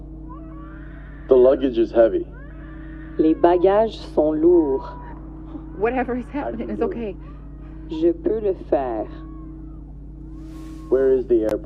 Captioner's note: speaking french